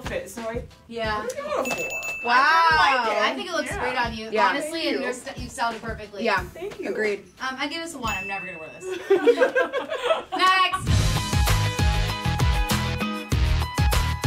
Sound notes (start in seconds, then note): 8.8 laughter; 10.8 electronic music